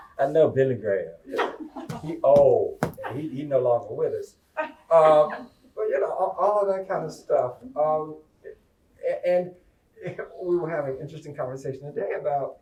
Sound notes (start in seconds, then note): 1.8 laughter and chair pounding